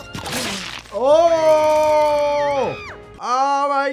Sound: teeth smashing; Sniffles screaming

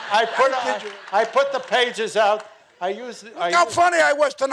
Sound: audience laughing

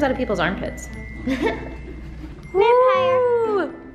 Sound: laughs

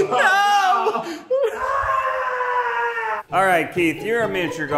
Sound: screams

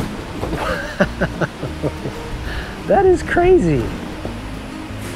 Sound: feet thud; laughs

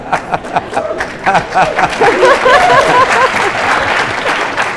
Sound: laughter; applause

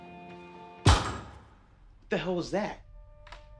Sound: object bang; tense music

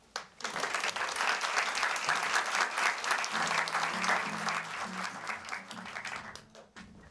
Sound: applause

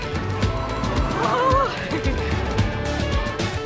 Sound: tires squeal; Joy laughing

